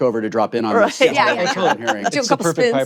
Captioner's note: laughter